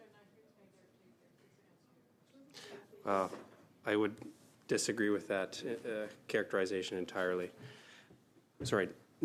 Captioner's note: conversation din